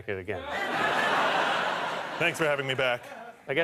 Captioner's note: audience laughter